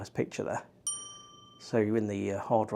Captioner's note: bell rings